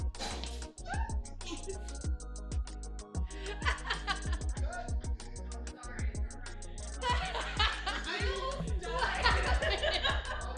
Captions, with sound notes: (laughter) Cut! (more laugher) I almost died!